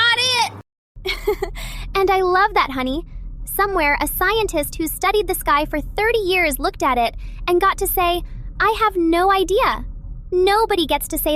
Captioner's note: laughs